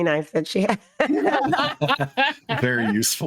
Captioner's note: everyone laughing